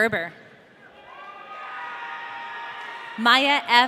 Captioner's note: audience cheering